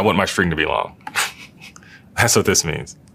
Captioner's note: laugh